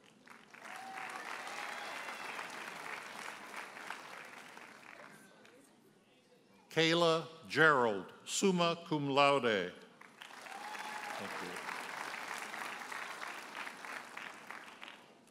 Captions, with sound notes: (audience cheers and applauds) Kayla Gerald, summa cum laude. (audience cheers and applauds)